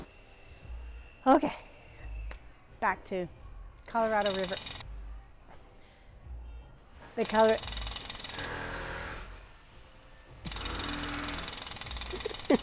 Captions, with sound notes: Okay, back to Colorado River. (Jack Hammer in background). The Colorado... (more Jack Hammering)